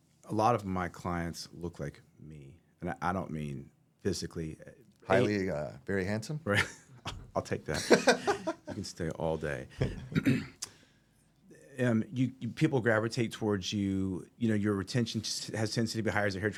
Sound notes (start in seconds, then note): 7.7 laughing